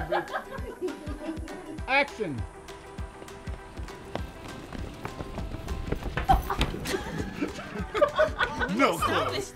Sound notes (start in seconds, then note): 0.0 actresses continue laughing; 2.8 sneakers running against pavement; 6.2 laughing